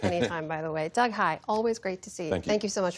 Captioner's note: laughter